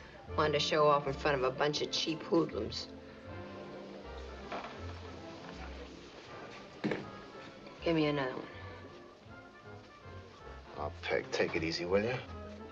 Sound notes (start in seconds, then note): none